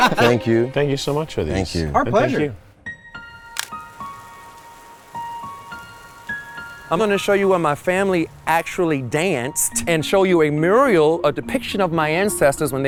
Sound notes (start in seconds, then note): 0.0 guys laugh; 3.2 melodic music; 3.4 rain pours